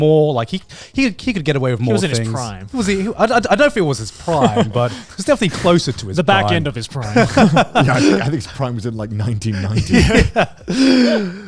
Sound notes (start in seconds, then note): 7.0 everyone laughs